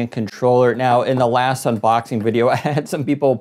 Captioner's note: giggles